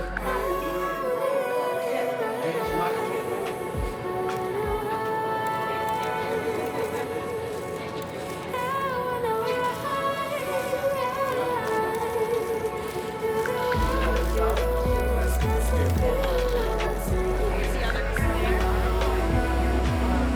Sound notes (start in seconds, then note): 9.9 cameras clicking; 18.6 cameras clicking